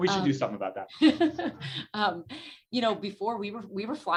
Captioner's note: laughs